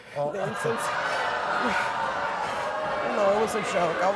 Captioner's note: audience shouting